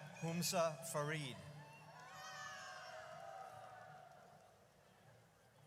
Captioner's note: audience cheers